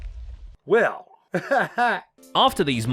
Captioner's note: laughs